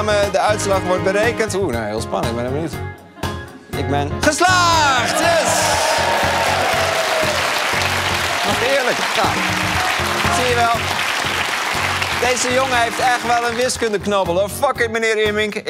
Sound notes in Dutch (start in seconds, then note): 8.0 applaus